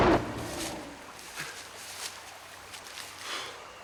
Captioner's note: Scarface roars; leaves rustle